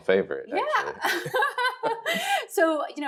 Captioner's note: laughing